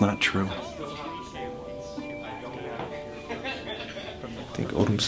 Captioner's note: group chattering and laughing